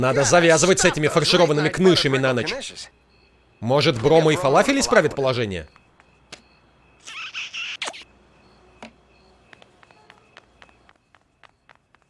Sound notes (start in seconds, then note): 7.0 <i>kissing</i>